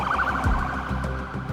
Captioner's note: sirens blaring